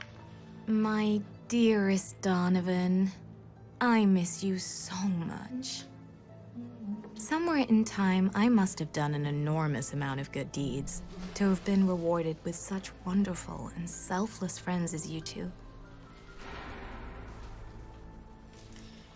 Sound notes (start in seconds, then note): 6.6 humming; 16.4 clattering in distance